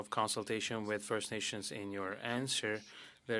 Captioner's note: speaking French